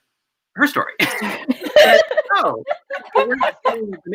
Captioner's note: laughing